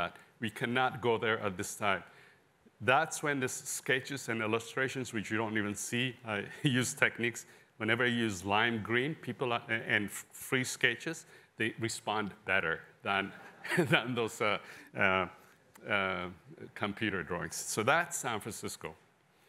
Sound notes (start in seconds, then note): 13.3 laughter